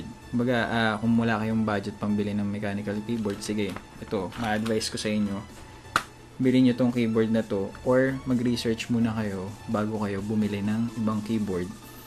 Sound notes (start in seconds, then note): 5.9 slaps